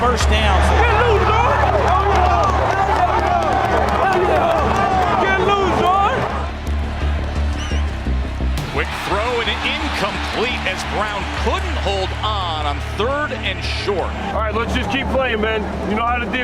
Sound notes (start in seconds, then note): 0.8 crowd noise